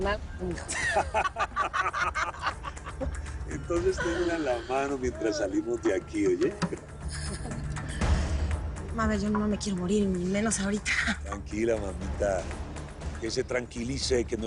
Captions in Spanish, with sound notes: - HASTA LAS NALGAS, M'HIJO. [Risas] - ENTONCES TENGALA A LA MANO MIENTRAS SALIMOS DE AQUI, ¿OYE? - MABEL, YO NO ME QUIERO MORIR Y MENOS AHORITA. - TRANQUILA, MAMITA, QUE SE TRANQUILICE,